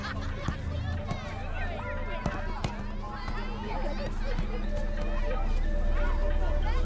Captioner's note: children chattering; football thudding